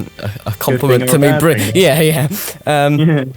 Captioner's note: laughing